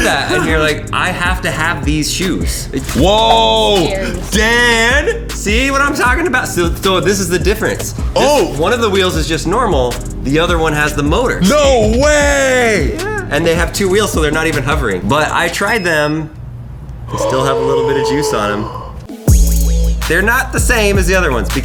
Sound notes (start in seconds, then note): 15.6 electronic beeping; 18.4 gasping